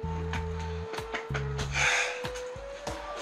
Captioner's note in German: Schnaufen